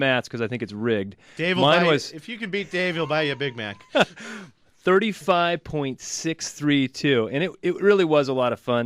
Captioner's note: laughs